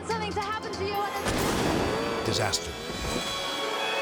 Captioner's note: explosion booms